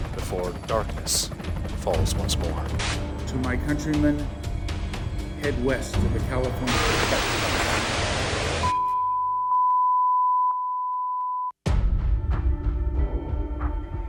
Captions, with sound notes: before darkness falls once more. (helicopter whirring) - To my countrymen head west of the Cali- (static crackling) (tone beeping) (eerie music)